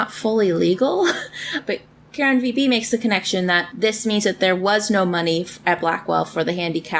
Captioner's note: laughs